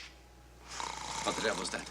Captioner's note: snoring playing on tape